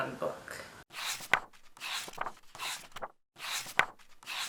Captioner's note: pages turning